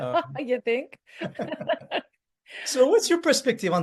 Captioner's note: laughs